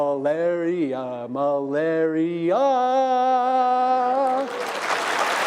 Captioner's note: applause